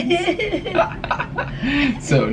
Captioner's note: chuckling